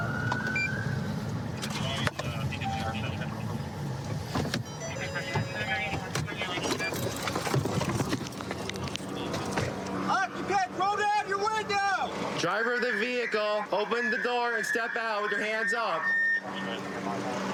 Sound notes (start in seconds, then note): 0.0 police siren; 4.5 car door chiming; 12.3 using loudspeaker